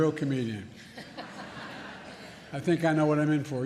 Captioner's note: laughter